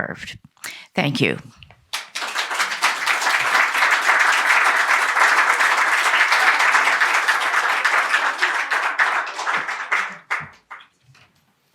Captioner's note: applause